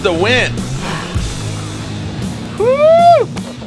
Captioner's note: sighs